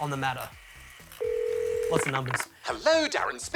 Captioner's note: ringing tone